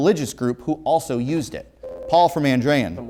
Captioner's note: ringing